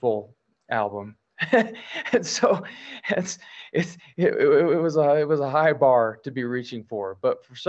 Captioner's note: laughs